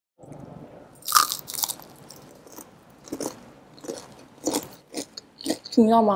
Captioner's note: crunchy sound